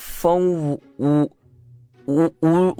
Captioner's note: sobbing